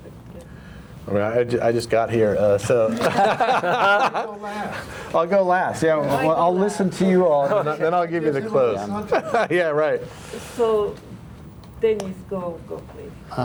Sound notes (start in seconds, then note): 2.9 crowd laughing